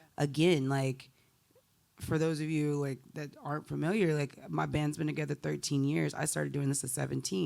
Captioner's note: none